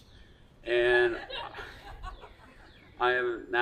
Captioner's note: attendees laughing